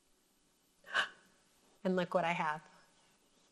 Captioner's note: gasps